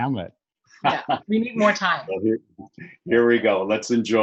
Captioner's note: laughs